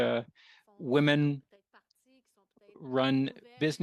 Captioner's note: speaking French